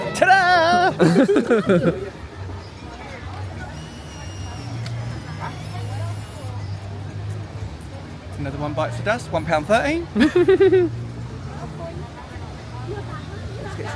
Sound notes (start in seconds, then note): 0.8 laughs; 3.7 camera whirring; 10.2 giggles